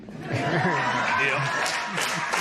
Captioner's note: laughter